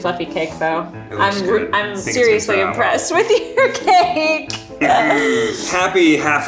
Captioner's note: laughs